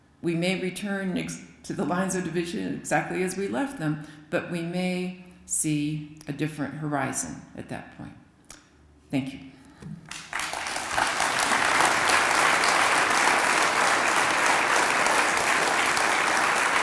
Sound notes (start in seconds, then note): 10.0 applause